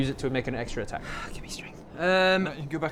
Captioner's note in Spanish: suspiro